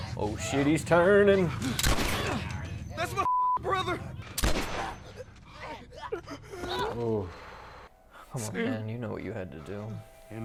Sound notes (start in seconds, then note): 3.2 beeping; 4.4 gun firing